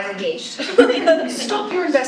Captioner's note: laughing